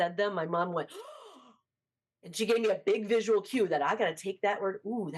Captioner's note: gasps